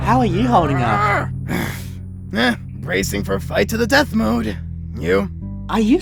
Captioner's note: sighs